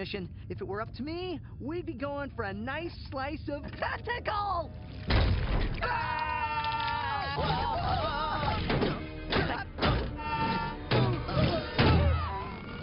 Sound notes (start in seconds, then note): 3.6 yelling; 5.8 both screaming; 8.6 thud; 11.8 thud